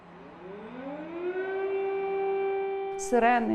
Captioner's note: air raid siren in the background